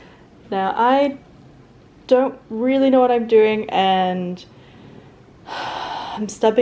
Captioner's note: deep sigh